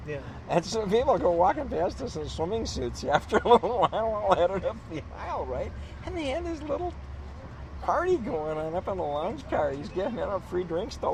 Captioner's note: laughs